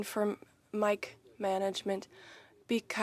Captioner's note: speaking French